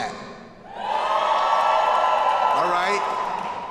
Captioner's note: students cheering